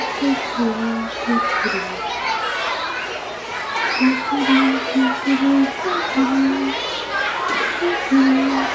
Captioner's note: children cheer and talk in the background